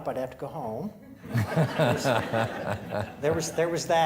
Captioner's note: audience laughing